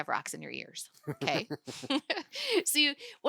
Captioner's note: laughing